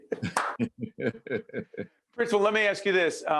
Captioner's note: laughing